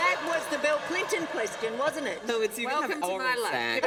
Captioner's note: laughter